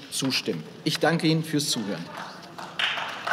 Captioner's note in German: Beifall